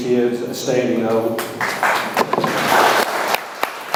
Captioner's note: audience applauds